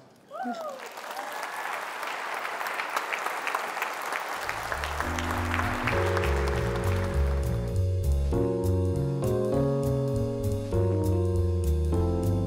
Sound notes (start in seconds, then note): 3.0 claps; 4.5 jazzy music